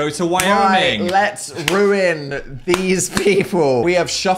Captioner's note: laughs